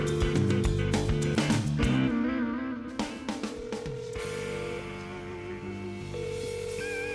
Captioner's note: phone ringing